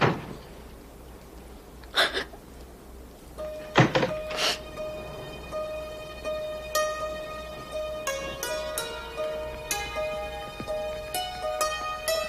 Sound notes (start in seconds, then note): 1.9 whimpering; 8.6 dramatic orchestral music